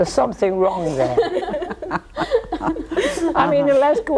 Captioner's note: all laughing